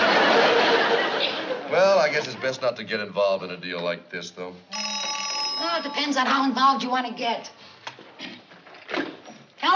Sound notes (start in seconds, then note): 4.7 phone ringing